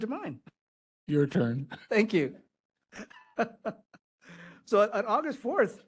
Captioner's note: laughing